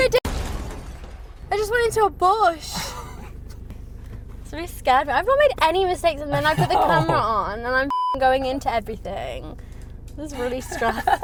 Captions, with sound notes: - I did, I did. (crashing) I just went into a bush. That's really scared me, I've not make any mistakes and then I put the camera on and I'm (beep) going into everything, this is really stressful.